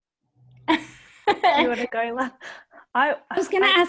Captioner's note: laughs